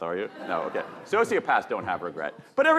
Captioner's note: audience laughing